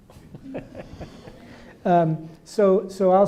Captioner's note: audience laughing